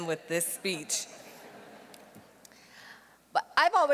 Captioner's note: audience laughing